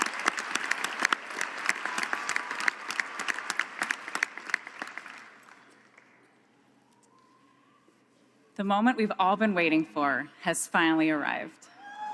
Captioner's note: applause